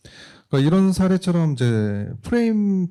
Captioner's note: speaking korean